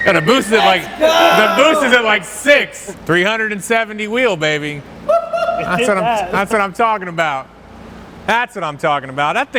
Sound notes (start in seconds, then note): 5.0 whoops loudly